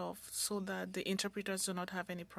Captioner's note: speaking French